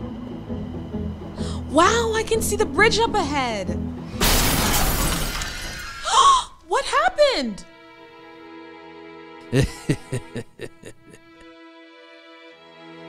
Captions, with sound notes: Wow! I can see the bridge up ahead! [Crash] Ah! What happened? He-he-he…